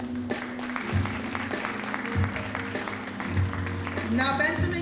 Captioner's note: audience applauding